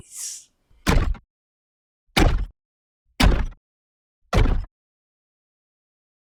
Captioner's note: heavy, robotic footsteps continue until they come to a stop